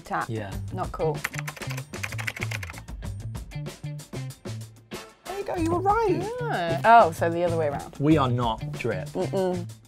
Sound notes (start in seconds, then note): 1.2 typing; 1.7 relaxed music